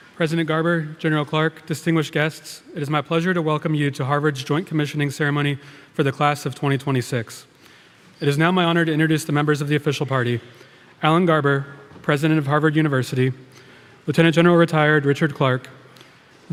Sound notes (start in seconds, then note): none